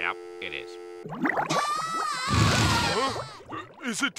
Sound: SpongeBob screaming

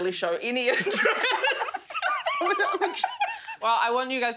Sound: all laugh

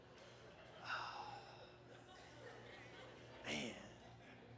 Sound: sighs

